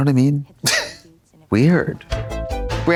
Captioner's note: Katya giggles; synth bop